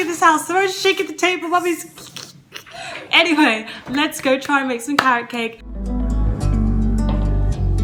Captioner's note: crinkling stuff